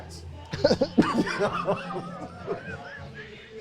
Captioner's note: both laughing